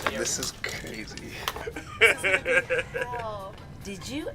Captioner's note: interviewee laughs